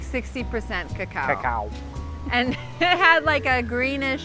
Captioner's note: laughs